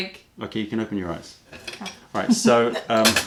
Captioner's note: laughter